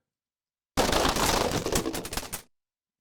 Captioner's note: crashing